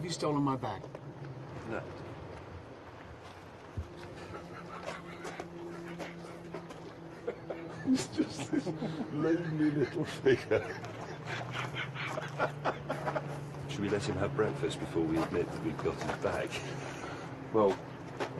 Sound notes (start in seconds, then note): 4.7 both chuckling; 11.3 laughing